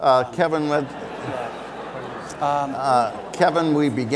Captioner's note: audience laughs